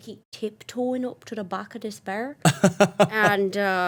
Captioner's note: laughing